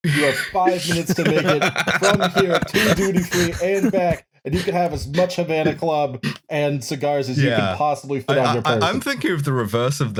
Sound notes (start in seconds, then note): 0.2 laughter